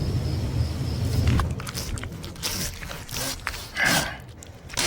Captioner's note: crickets chirping; thunder rumbles; flesh squelching; saw scraping; Janus grunts